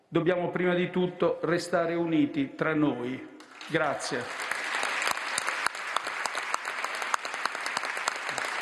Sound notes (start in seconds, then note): 3.4 final applause